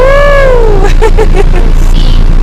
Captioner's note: laughs